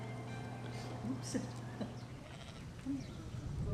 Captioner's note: laughter